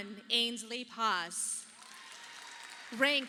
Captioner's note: audience applauding